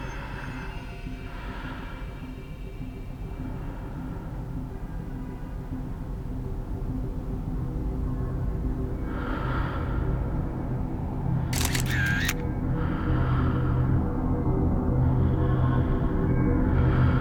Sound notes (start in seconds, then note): 11.5 shutter clicking